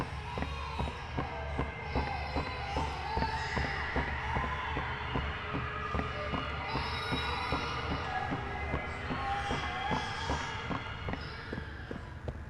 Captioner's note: footsteps